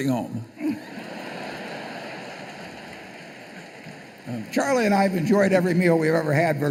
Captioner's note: laughter